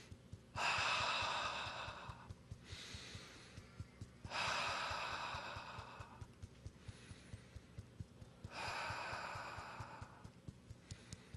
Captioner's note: inhales and exhales four times